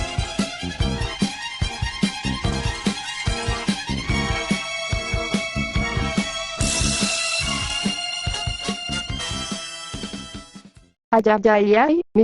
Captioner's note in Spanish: Efecto de bajar